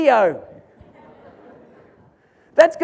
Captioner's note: audience laughs